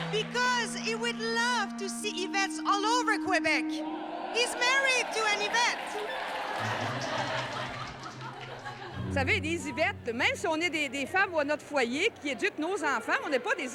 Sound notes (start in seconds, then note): 7.2 audience laughing; 9.5 speaking foreign language